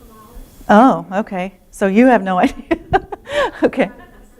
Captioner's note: laughter